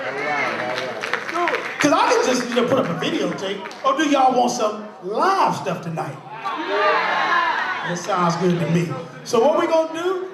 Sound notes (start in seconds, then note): 0.0 crowd claps; 6.6 crowd: We want live